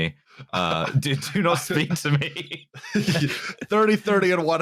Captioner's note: laughter